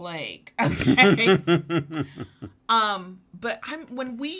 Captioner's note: both laugh